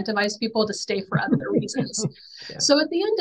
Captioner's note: chuckling